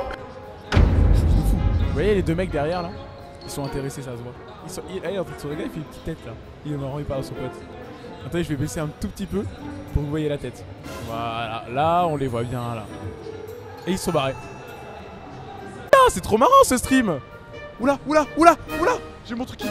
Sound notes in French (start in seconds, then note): none